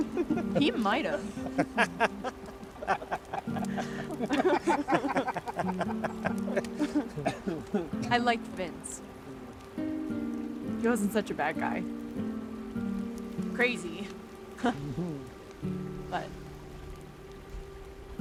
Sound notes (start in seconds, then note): 14.0 chuckles